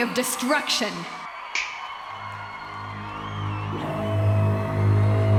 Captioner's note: finger snap